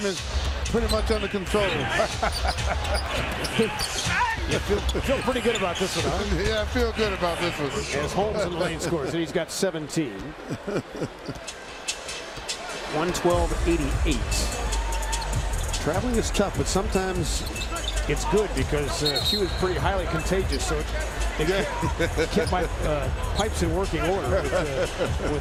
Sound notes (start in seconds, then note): 10.3 laughing